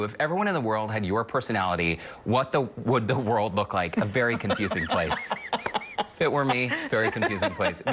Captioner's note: laughter